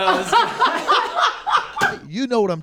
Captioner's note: laugh